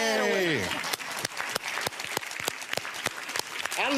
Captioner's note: applause